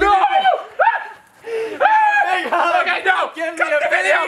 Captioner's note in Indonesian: jeritan